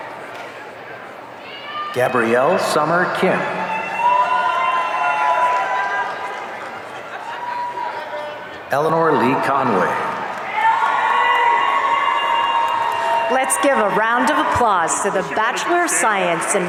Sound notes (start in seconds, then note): 4.1 audience cheering; 10.0 audience cheering